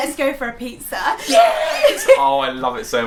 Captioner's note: cheering